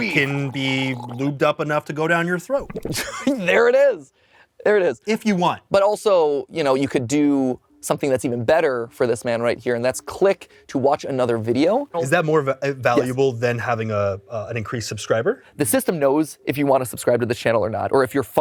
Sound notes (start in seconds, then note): 2.8 guffaws